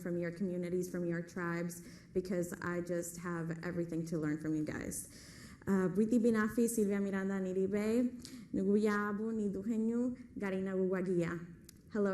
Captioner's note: speaking Spanish